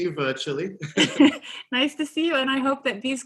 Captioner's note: laughs